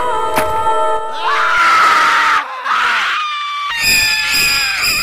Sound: screaming

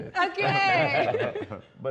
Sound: laughter

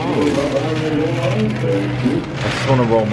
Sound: pieces clacking

